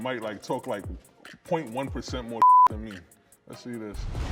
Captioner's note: beep